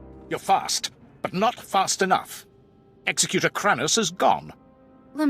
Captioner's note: none